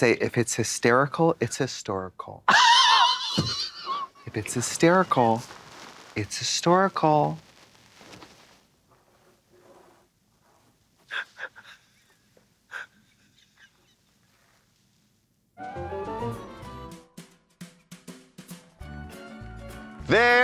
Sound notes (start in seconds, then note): 2.5 Katya giggles; 11.0 Katya wheezing; 16.2 sings